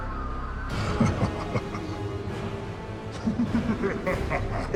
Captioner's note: distant screaming; ghoulish laughter